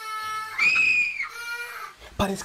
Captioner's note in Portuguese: Uma mulher grita